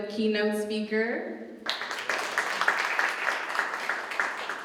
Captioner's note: applause